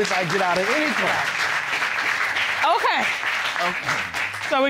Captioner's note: audience applauds